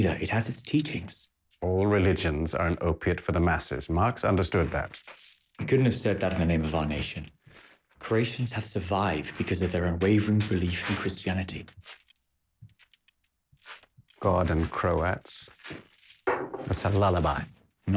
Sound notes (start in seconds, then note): none